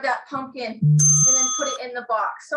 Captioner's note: bell rings